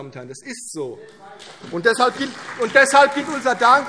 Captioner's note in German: Beifall CDU und BÜNDNIS 90/DIE GRÜNEN